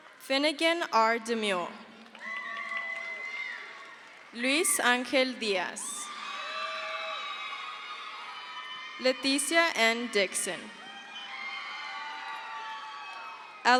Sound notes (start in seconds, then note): 2.7 crowd cheers; 6.5 crowd cheers; 11.9 crowd cheers